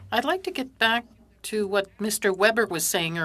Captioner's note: speaking French